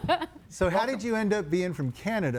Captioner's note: laughing